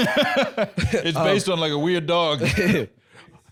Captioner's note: laughs